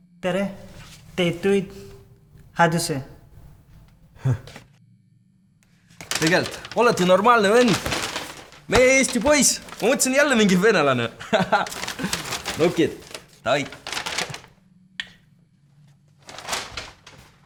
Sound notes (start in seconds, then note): 6.0 𝘞𝘪𝘵𝘩 𝘢 𝘙𝘶𝘴𝘴𝘪𝘢𝘯 𝘢𝘤𝘤𝘦𝘯𝘵